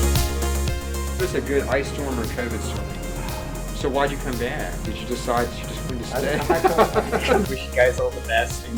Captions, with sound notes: There's a good ice storm or COVID storm, so why'd you come back? Did you decide you're just going to stay? (laughing) I wish you guys all the best